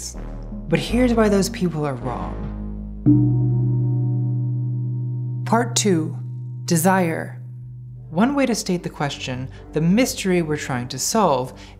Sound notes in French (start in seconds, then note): none